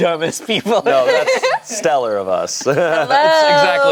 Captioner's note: laughs